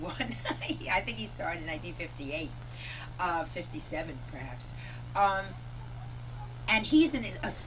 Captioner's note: laughter